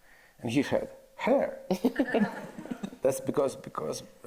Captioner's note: audience laughs